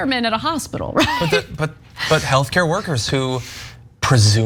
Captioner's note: laugh